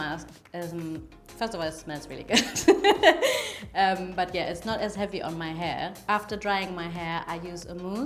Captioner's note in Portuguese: risos